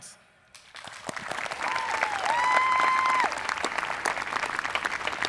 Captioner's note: people applauding